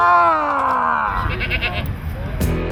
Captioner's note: goat bleats; upbeat rock music